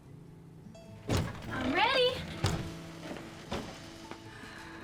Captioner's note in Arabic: يُفتح الباب ويُغلق